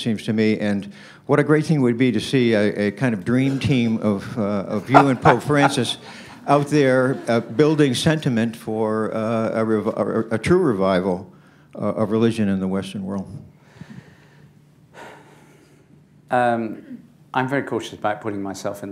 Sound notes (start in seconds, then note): 4.8 laughter